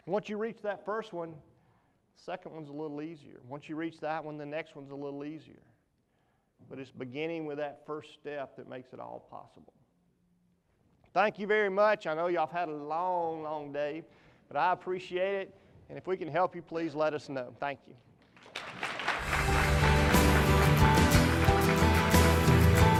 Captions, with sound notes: Once want you to reach that first one, second one's a little easier and once you reach that one the next one's a little easier. But its beginning with that first step that makes it all possible. Thank you very much, I know you all had a long long day but I appreciate it and if we can help you please let us know, thank you. (audience applauds) (inspirational music)